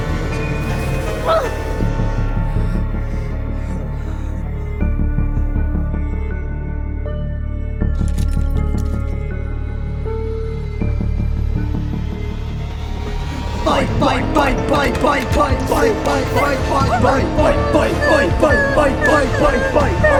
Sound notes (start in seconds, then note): 0.0 metal creaking and groaning; 2.1 upset panting